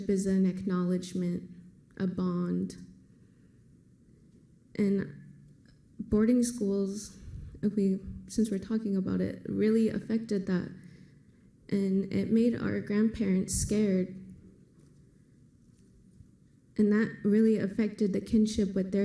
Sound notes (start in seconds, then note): none